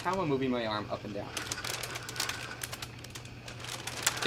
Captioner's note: plastic package rustling